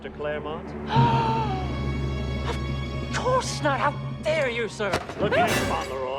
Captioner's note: gasps